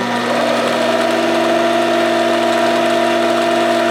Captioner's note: machine whirring